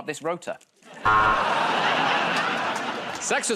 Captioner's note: buzzer